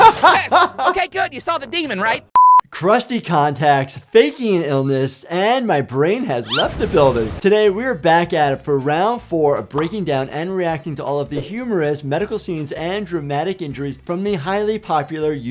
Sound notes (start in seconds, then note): 2.3 screen beeping; 10.6 gif popping; 11.6 screen whooshing